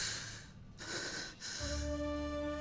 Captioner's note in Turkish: Nefes sesi